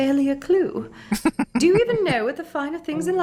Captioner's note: chuckling